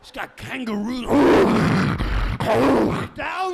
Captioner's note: imitating kangaroo snaring sounds